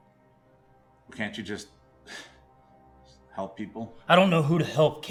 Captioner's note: scoff